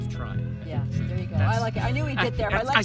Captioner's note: laughing